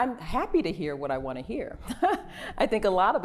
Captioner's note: laughter